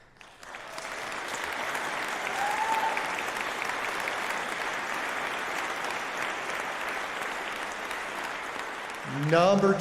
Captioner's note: applause